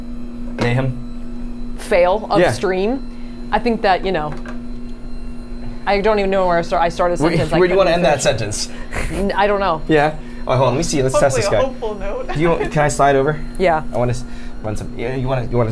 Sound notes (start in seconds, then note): 5.0 machine whirring continues; 11.1 laughs